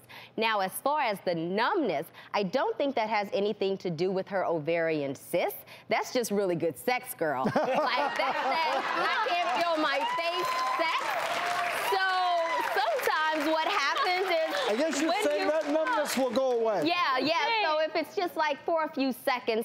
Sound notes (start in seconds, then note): 11.5 laughter and applause